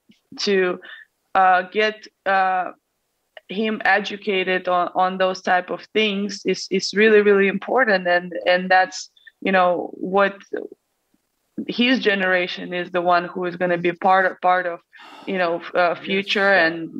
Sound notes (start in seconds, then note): none